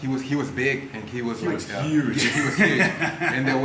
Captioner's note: laugh